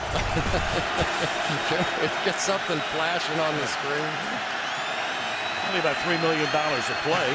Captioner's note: laughs